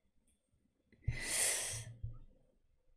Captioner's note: sharp intake of breath